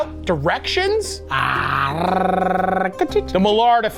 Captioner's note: Matty trills